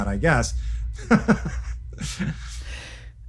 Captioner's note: chuckles